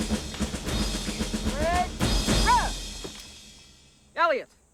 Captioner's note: shouts Command